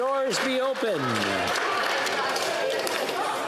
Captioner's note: applause